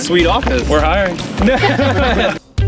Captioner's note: laughing